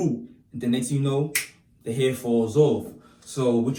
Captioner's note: snaps Finger